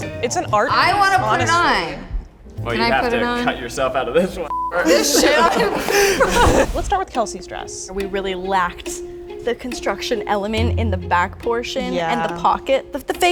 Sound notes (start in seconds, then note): 4.5 beep; 4.7 laughs